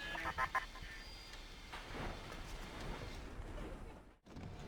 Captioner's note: laughing